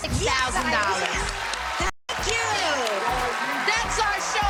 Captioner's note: cheers and applause